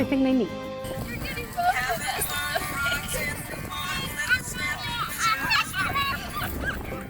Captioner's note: happy chatting with music in the background